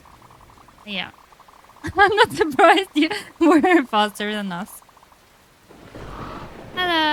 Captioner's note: laughs